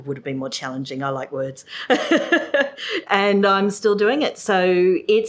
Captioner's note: laughs